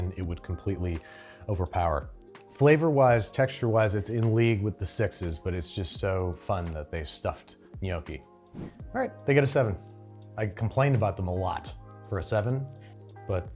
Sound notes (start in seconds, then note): 8.5 air whooshes